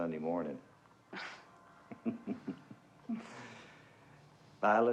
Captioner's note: chuckling